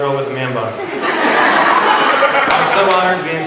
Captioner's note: laughter